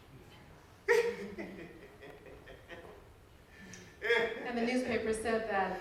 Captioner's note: laughing